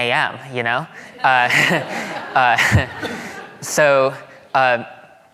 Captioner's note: audience laughing